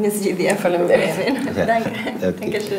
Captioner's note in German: Klientin spricht Albanisch